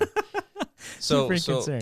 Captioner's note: laughs